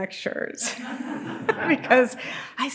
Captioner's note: audience laughing